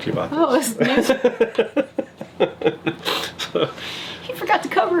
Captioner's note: laughing